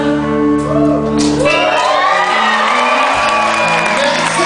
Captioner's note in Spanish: APLAUSOS - OVACIoN